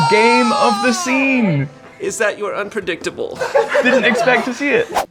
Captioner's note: screaming